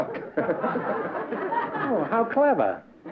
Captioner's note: laughter